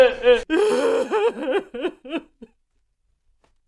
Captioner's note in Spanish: llora; sollozos desgarradores imparables